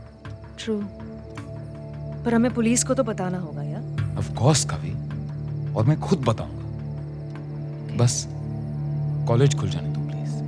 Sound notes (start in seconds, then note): none